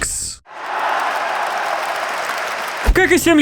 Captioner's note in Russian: Аплодируют стоя